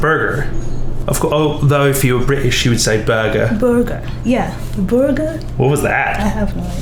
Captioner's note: British accent